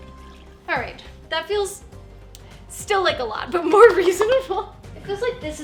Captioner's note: laughing